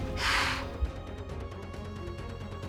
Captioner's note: doe snorting; suspensful music